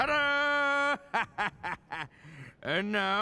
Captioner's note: chuckles